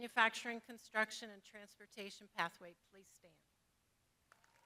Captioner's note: crowd applauding